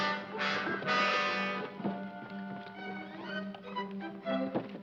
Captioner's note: none